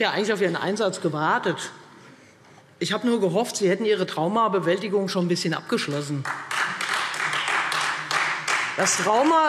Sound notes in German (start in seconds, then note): 6.0 Beifall Freie Demokraten und vereinzelt SPD